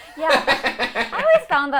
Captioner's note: all laughing